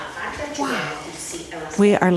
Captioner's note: people chattering